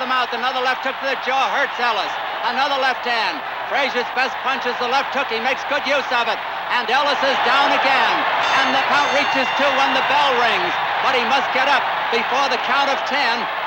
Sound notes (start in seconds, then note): 7.7 crowd cheering; 8.4 bell dinging